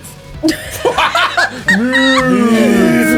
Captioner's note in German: Gruppe lacht